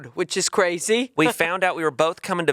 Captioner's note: chuckling